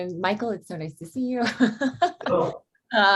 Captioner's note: laughs